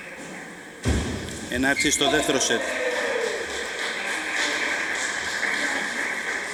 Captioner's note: applause